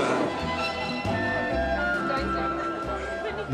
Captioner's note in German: Stimmengewirr, heitere Musik